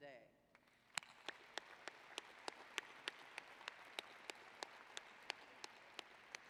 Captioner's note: applause